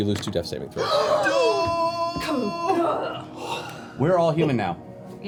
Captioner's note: yelling